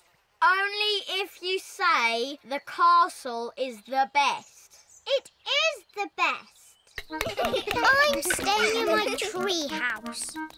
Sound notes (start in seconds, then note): 7.1 all laugh